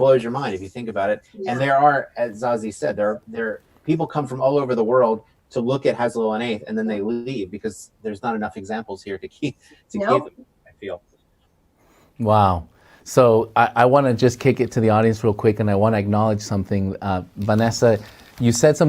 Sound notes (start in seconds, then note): 7.5 interruption in mic